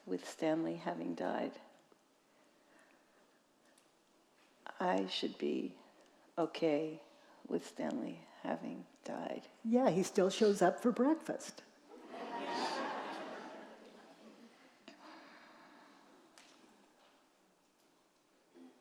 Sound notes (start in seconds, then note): 12.0 audience chuckling